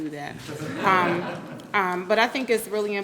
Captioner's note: group laughing